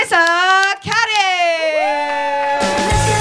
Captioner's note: audience cheering